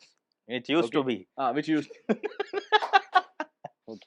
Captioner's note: laughter and a few eye-rolls too